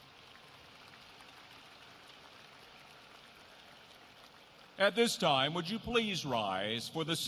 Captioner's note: applause